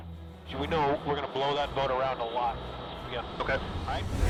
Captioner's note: voiceover